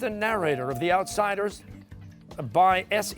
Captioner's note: ringer dings